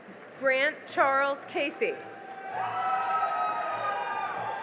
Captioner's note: cheering and applause